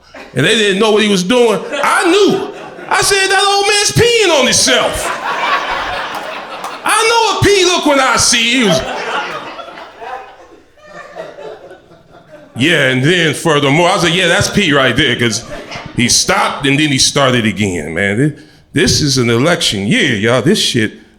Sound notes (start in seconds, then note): 9.2 crowd laughter